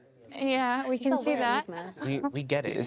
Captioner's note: laughter